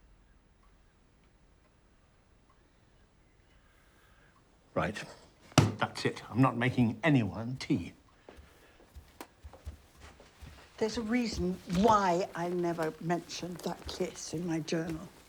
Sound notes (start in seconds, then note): none